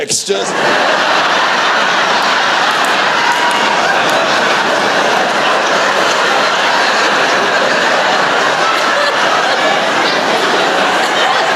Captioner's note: laughter